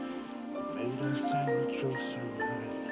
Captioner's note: humming